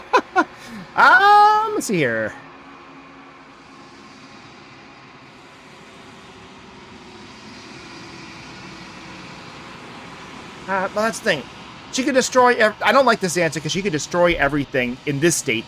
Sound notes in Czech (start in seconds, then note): 0.0 smích